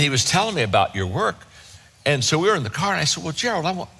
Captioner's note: none